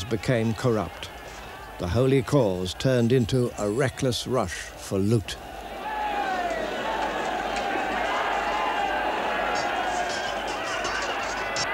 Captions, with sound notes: became corrupt. The holy cause turned into a reckless rush for loot. [CHEERING]